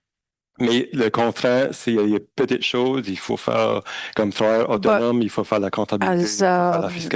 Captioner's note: speaking in French